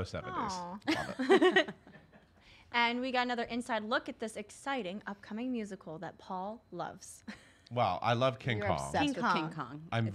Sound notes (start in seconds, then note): 0.8 laughter